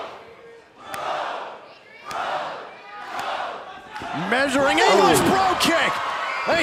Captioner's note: fans chanting